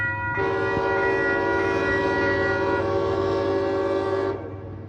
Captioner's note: another horn